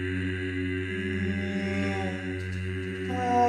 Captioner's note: moan